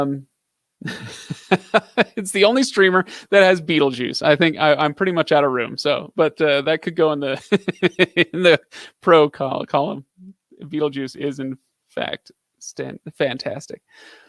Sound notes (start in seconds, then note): 7.3 laughs